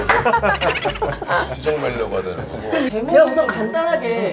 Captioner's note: laughter